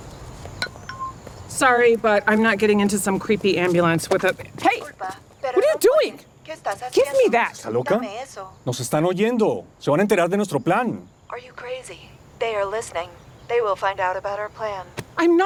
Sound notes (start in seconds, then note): 0.6 phone beeps; 5.8 phone translating to Spanish; 8.2 speaking Spanish